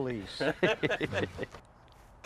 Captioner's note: all laughing